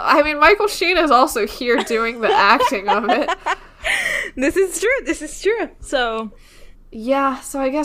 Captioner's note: laughing